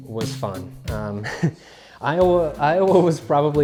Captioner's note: laughing